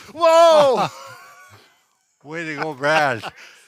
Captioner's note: laughs